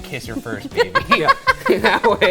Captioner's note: laughing